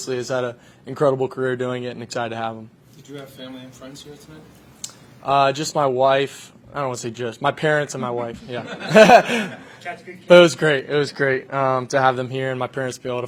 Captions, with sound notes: Obviously he's had an incredible career doing it and excited to have him. - Did you have family and friends here tonight? - Just my wife. I don't want to say just, my parents and my wife. Yeah. (laughing) - Catch a good kid. - But it was great. It was great to have them here and my parents to